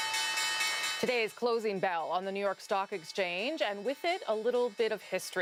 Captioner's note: bell rings